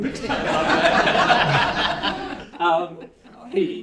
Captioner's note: laughter